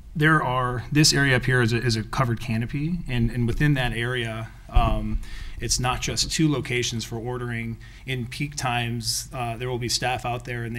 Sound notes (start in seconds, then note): none